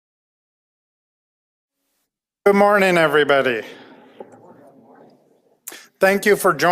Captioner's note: audience response